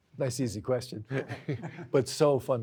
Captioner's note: lightly chuckles